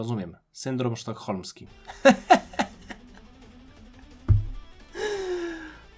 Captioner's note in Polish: śmiech; wciągnięcie powietrza